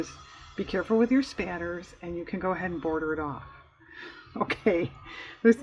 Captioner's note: laughs